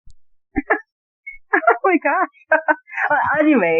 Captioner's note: laughter